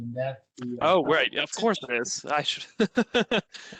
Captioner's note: laughter